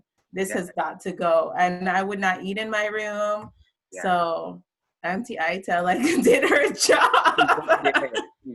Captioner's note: laugh